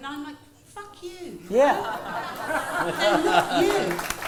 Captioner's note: laughter